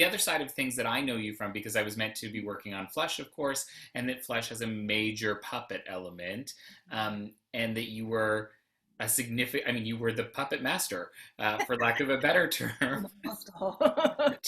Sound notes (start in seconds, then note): 11.5 laughs